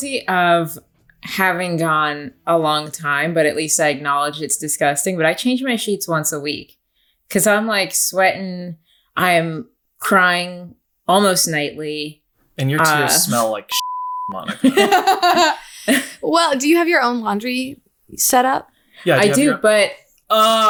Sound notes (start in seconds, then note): 13.7 beep; 14.5 laughing